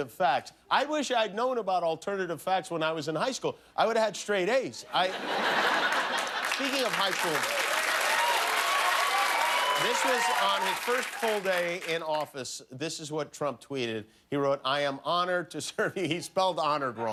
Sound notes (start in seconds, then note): 4.9 laughter; 5.8 cheers and applause